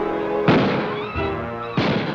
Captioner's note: gunshots